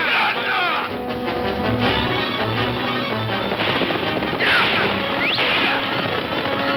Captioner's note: Pancho shouting in Spanish; suspenseful orchestral music; guns firing